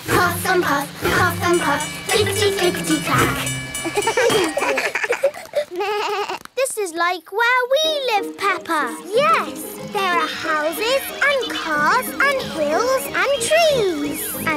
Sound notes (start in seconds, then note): 3.8 all laugh